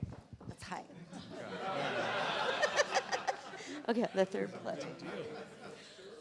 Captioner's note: laughter